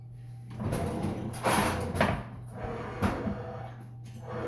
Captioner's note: drawers shutting